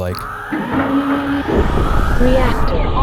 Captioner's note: alarms blaring